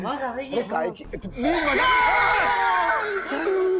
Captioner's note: screaming